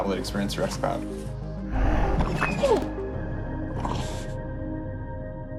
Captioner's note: satisfied dog sounds